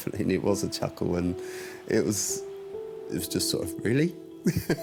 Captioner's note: chuckles